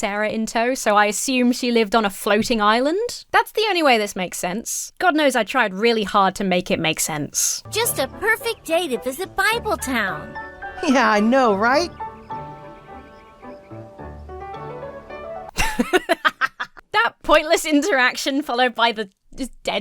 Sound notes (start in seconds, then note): 12.1 whimsical music; 15.5 Emma laughs